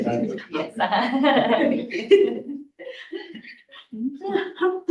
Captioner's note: laughs